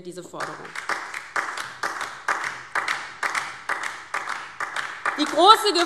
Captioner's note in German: Beifall DIE LINKE